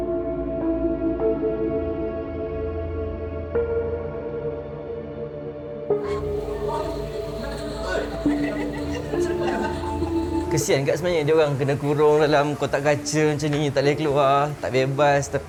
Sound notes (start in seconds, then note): 9.2 laugh